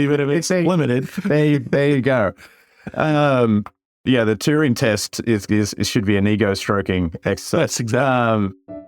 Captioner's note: laugh